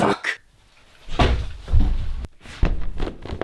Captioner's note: thud